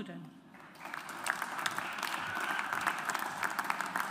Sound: audience applauds

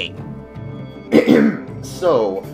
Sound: ahem

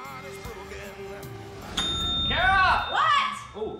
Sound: dings

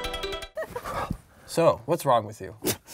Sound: laughs

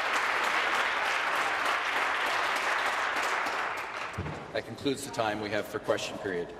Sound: applause; voice trailing

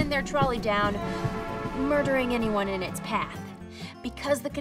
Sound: train horn blaring loudly

